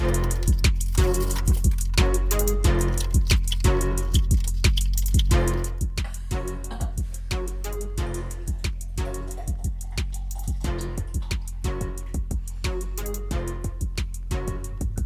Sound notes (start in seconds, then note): 0.2 hiphop music; 6.0 laughs